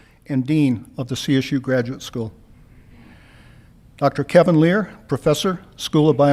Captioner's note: none